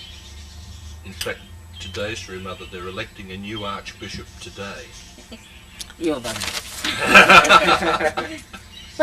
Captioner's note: laughter